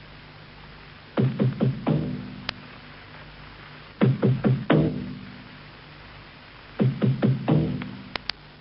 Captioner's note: Radio static from the opening transmission of "Radio London"